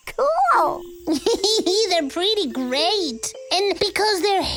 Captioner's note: laughs